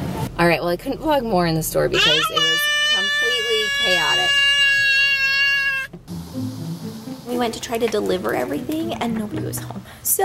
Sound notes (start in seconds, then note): 4.6 screaming; 5.8 light suspenseful music